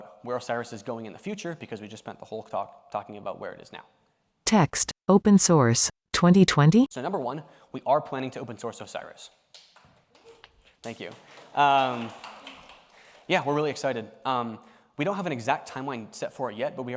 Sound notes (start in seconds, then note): 10.8 audience clapping